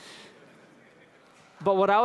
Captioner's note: laughter